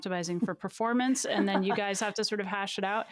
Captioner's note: laughing